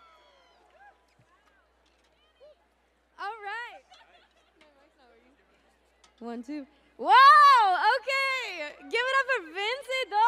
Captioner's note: cheers and applause